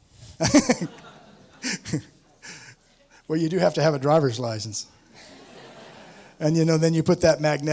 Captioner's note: laughs